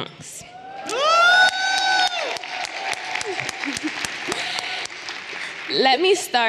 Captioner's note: everyone applauding and cheering